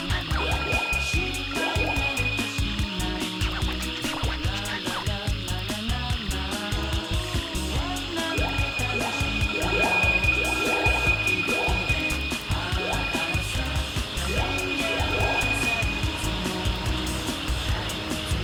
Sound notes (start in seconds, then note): 3.3 objects chiming; 3.3 upbeat goofy music; 13.3 objects chiming; 13.3 upbeat goofy music